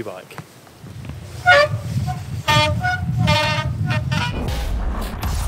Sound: wheels creaking; dramatic tune

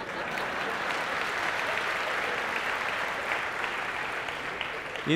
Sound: laughter

